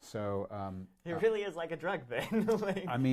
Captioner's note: laughs